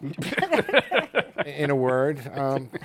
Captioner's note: laughter